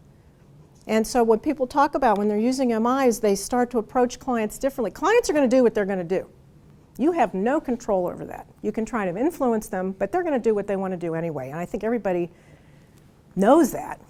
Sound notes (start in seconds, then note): none